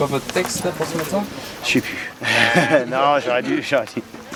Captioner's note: laugh